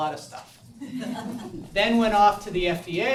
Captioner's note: audience laughs